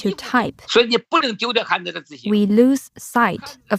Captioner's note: speaking Mandarin